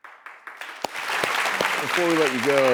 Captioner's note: audience clapping